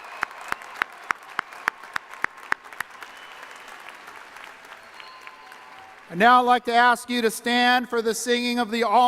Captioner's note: applause